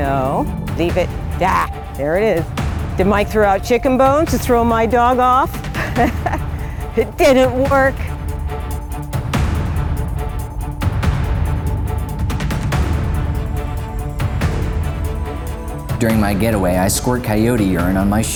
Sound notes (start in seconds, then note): 5.5 laughs; 9.3 intense music